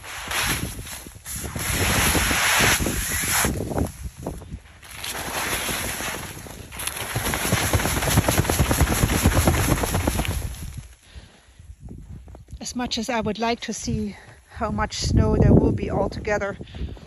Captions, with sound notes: [Sound of snow sliding down the tent] [Sound of shaking the tent] As much as I would like to see how much snow there will be all together,